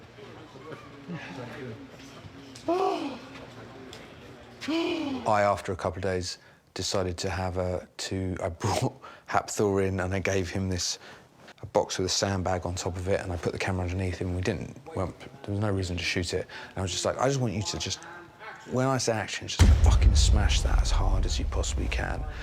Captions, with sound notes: (CHUCKLES) Thank you. (SIGHS) I, after a couple days, decided to have a-- I brought Hafpór in, and I gave him this-- a box with a sandbag on top of it, and I put the camera underneath and we didn't-- there's no reason to shoot it, and I was like, "I just want you to just-- When I saw action, just fucking smash that as hard as you possibly can.